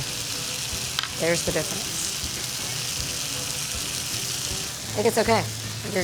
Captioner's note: pan sizzling